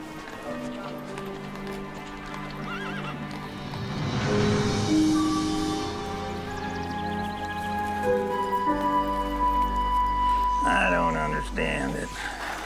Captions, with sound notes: (calm music playing) (birds chirping) - I don't understand it.